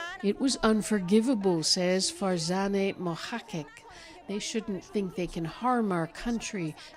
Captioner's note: speaking alternate language